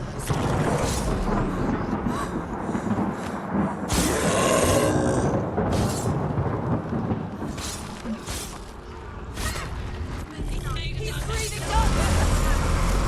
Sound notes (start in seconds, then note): 8.3 indistinct chatter